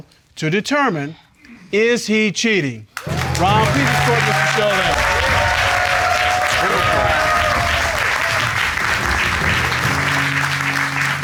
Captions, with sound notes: to determine "Is he cheating?" -[all applauding] -Ron, please escort Mr. Shull in.